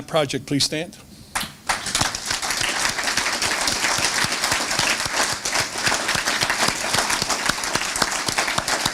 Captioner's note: applause